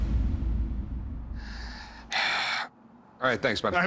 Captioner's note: sigh